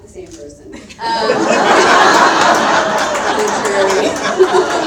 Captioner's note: all laugh out loud